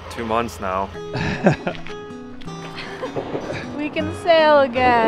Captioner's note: lighthearted guitar music; laughing